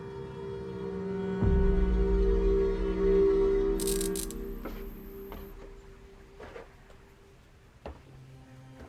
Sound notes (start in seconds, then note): 3.8 light buzzing; 5.0 footsteps tapping